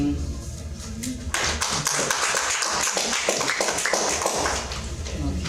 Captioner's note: audience clapping